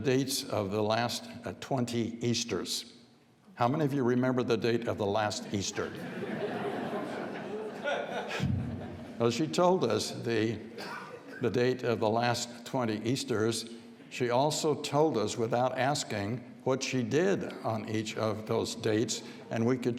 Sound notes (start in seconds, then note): 5.8 audience laughs